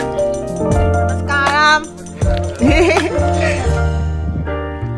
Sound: chuckle

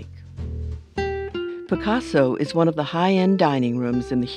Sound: voiceover

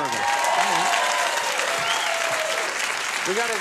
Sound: audience cheering

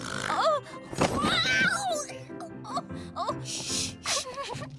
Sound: thump!

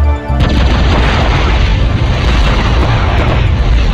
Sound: intensive explosions everywhere in Dulles Airport

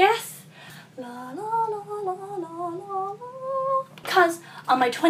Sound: hums

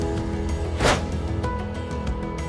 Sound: background music; swooshing sound effect

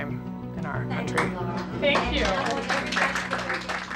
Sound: applause

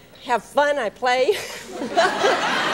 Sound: audience laughs

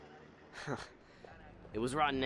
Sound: laugh

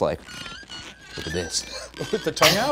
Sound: squeaking noises

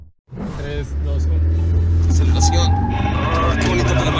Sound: engine revving

